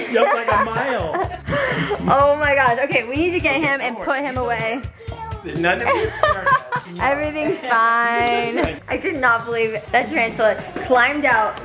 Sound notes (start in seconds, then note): 5.8 laughing